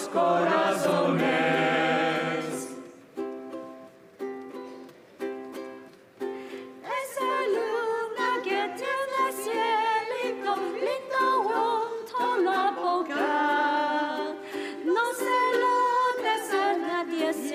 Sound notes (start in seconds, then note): none